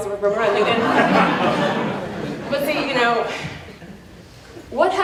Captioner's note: laughter